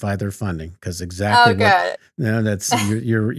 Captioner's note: laughing